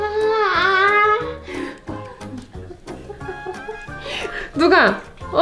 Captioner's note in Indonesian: tertawa